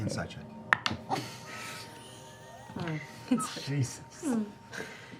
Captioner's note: laughter